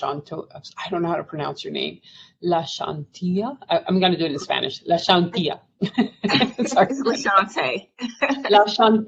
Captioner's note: laughs